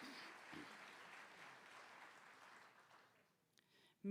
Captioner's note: applause